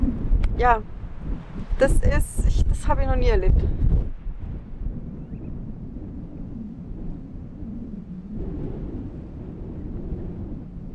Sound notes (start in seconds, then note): 7.1 wind noise